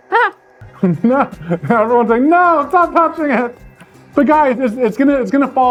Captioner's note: laughs